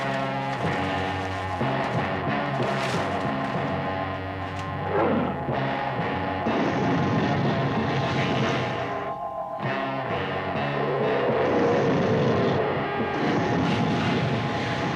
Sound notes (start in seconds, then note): 0.2 intense dramatic music; 4.4 dinosaur roaring; 6.4 flames roaring